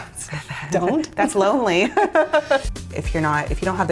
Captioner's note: both laughing